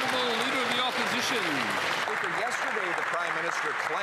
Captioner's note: some Applause